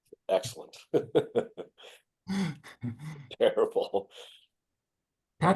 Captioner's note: laughs